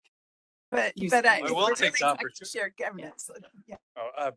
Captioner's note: voices speaking in background; laughing